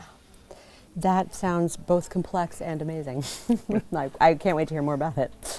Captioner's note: laugh